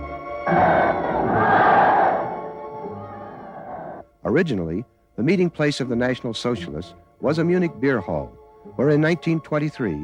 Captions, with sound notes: (crowd chants) Originally, the meeting place of the National Socialists was a Munich Beer Hall, where in 1923